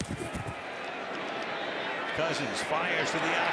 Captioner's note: scuffling